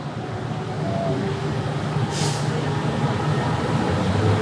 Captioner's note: bus engine roaring